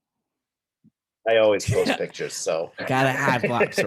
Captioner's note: both laughing